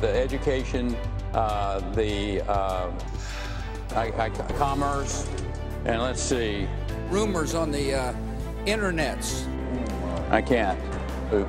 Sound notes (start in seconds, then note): 3.2 sighs